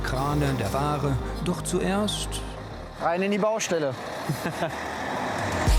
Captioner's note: laughs